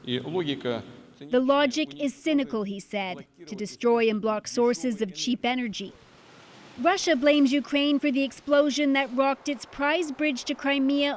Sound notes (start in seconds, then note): 3.2 speaking alternate language